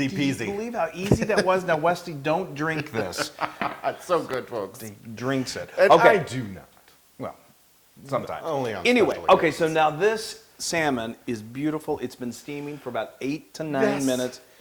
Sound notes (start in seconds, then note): 2.6 laugh